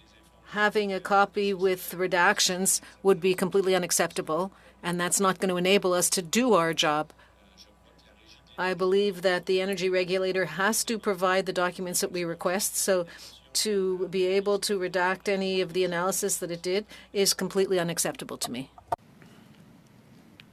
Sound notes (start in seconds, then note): 6.5 speaking French